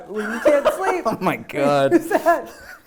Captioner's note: laughs